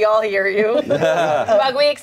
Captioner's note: everyone laughs